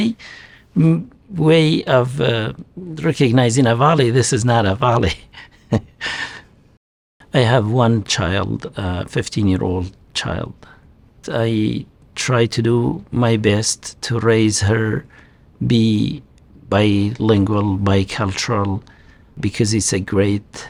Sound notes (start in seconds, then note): 5.0 laughs